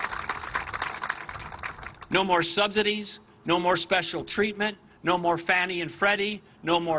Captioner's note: applause